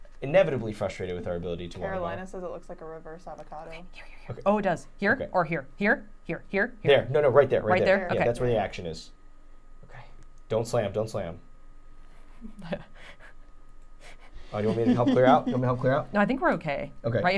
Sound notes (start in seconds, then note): 4.3 whispering